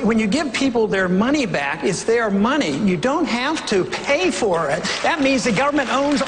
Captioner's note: applause